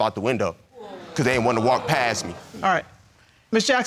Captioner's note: audience exclaiming